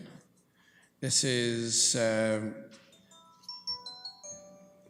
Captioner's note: phone rings